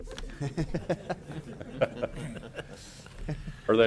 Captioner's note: laughter